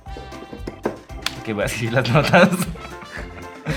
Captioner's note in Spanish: risas